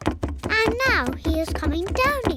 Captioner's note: pounding trotters